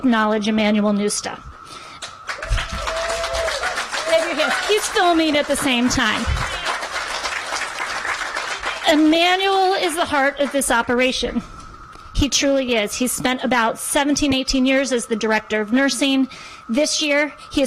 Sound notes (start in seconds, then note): 9.2 applause